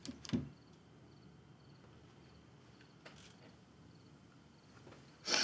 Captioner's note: insects chirping